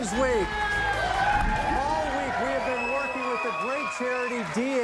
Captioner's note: cheers and applause